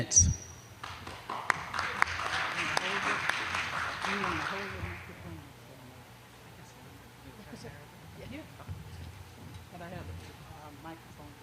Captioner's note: applause